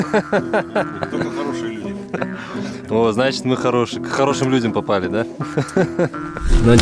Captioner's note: laughing